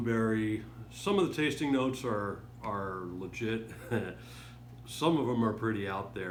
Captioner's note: chuckles